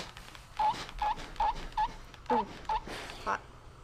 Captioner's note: iron squeaks